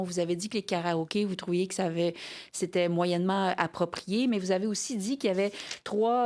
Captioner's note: speaking French